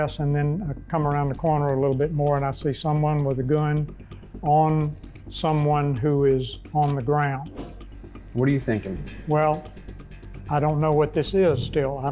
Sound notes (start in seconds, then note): 7.6 whooshing